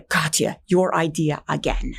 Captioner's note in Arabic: يتحدث بلغة أجنبية